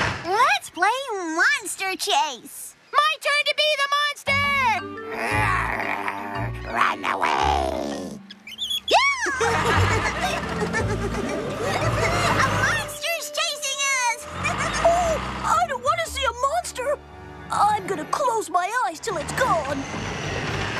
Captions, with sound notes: LET'S PLAY MONSTER CHASE! MY TURN TO BE THE MONSTER! ( Growling ) RUN AWAY! ( Laughing & Squealing ) A MONSTER'S CHASING US! OH, I DON'T WANT TO SEE A MONSTER! I'M GOING TO CLOSE MY EYES TILL IT'S GONE!